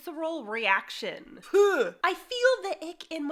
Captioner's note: gagging